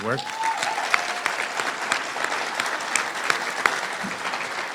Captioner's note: applause